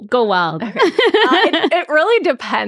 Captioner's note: laughing